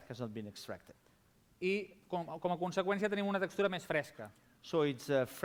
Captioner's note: non-english speech